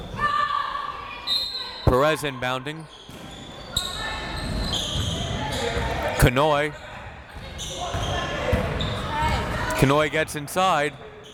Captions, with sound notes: (whistle tweeting) Perez inbounding. Kanhoye. Kanhoye gets inside.